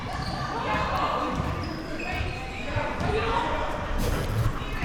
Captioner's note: athletes shouting